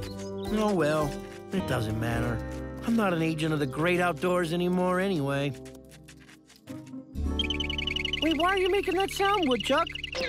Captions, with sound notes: Oh well, it doesn't matter. I'm not an agent of the great outdoors anymore, anyway. (woodchuck squeaking) Wait, why are you make it look sound, woodchuck?